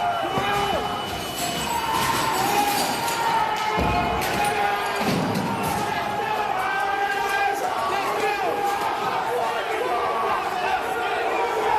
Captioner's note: shouting